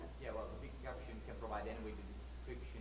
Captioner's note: voiceover